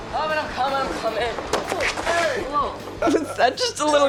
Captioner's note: thudding and shouting; laughs